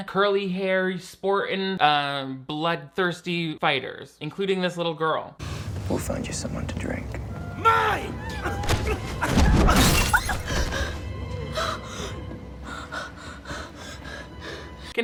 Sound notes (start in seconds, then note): 9.2 glass shattering; 11.4 breathing heavily